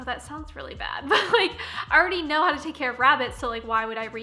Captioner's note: laughing